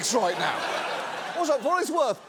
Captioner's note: audience laughs